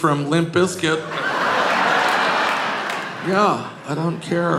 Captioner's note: audience laughing